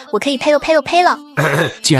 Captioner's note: spit